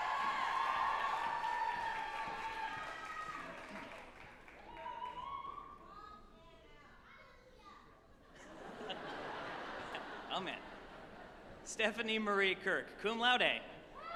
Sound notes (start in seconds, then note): 0.0 group applauding and cheering; 7.0 off-mic attendee shouting; 8.3 group chuckling; 13.9 group applauding and cheering